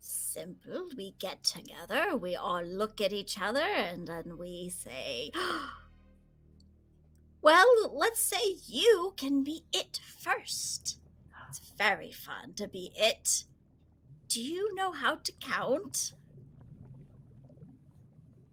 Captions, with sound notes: - Simple. We get together. We all look at each other and then we say, (gasping) well, let's say you can be it first. It's very fun to be it. Do you know how to count?